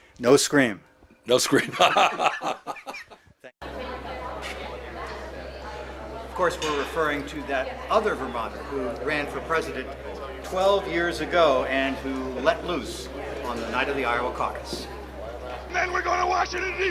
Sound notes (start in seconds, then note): 1.5 laughter